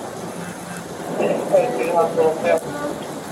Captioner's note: radio chatter